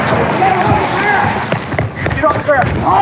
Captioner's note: fooootststepsps r runnin